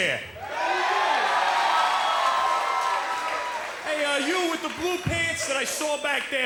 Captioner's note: cheers & applause